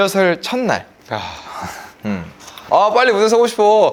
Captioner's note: everyone was just sighing